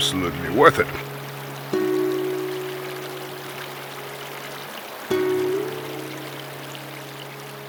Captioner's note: water rushing